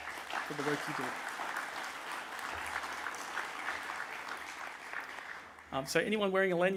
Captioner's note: applause